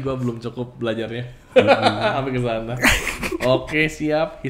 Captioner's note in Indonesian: ketawa